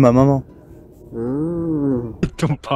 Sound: aaaaammmmhhhh

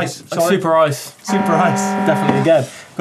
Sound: horn shouting

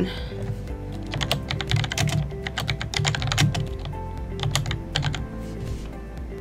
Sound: typing

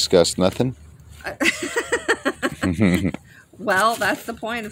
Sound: laugh

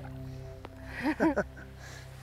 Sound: both laugh

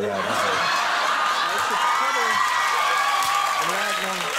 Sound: audience cheers

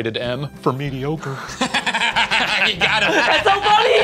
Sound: laughing

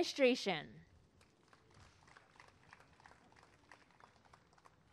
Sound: applause and cheering

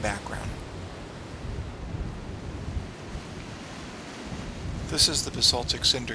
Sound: ocean surf roaring

